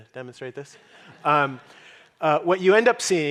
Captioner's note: audience laughing